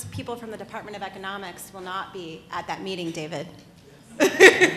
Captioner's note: laughs